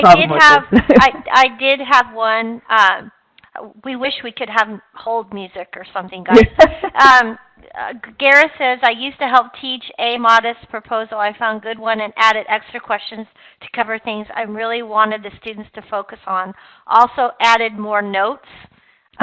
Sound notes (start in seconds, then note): 6.3 laughing